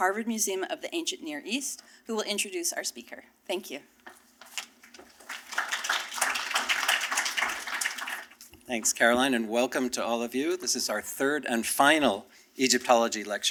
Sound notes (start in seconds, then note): 4.8 applause